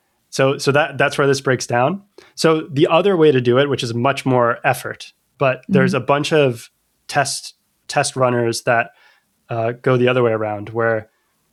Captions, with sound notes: so so that that's where this breaks down. So the other way to do it, which is much more effort, but there's Mm-hmm a bunch of test test runners that [UH] go the other way around where